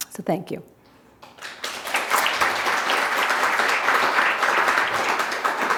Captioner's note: audience applause